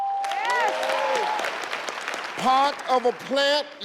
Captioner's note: audience applauding